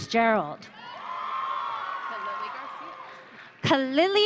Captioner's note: audience cheering